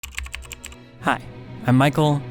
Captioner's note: keyboard clicking